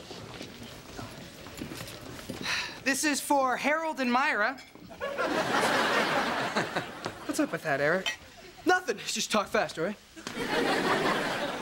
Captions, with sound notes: (SIGHS) This is for Harold and Myra. (CHUCKLES) What's up with that, Eric? Nothin'. Just talk fast, all right?